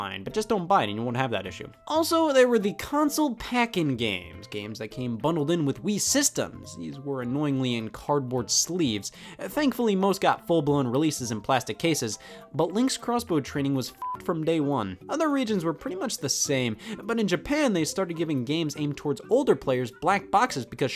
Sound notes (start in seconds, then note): 14.0 beep